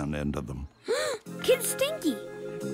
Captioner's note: gasps